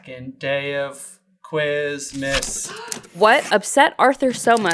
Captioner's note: gaaaaasp